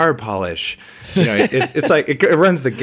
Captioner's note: laughs